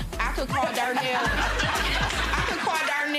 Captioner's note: laughing